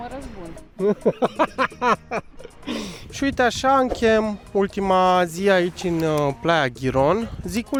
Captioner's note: laughter